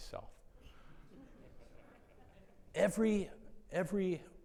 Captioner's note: attendees laughing